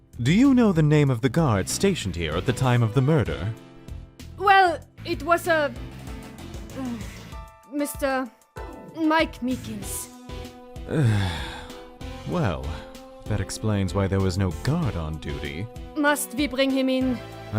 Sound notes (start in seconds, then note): 10.8 sigh